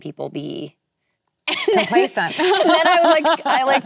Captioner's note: laughing; laughs